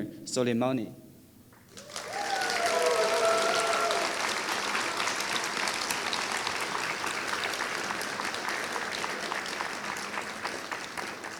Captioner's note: applause